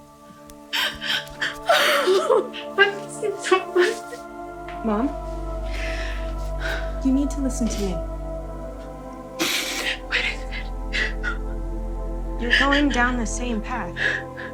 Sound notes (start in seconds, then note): 0.7 Ally crying